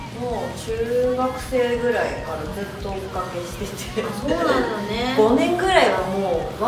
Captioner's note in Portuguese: risos